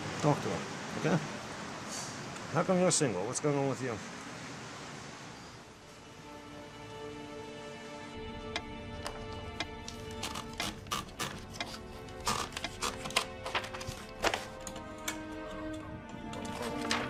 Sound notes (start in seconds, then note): 6.4 slow paced music; 9.0 ticking